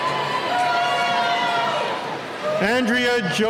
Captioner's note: cheering